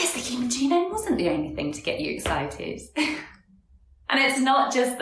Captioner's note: chuckles